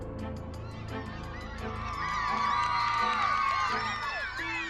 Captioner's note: whooping